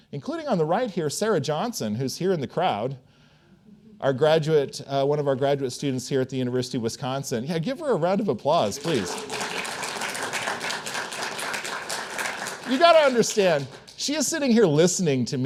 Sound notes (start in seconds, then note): 8.6 attendees applauding